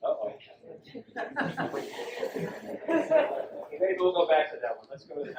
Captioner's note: audience laughs